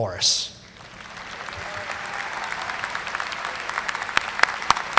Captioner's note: audience applauding